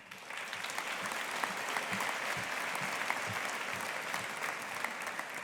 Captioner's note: audience applauding